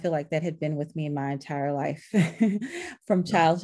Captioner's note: chuckles